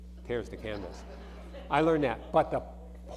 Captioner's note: audience laughing